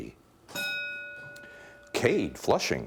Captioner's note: bell dinging